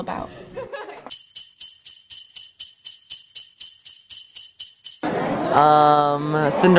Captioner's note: bells jingling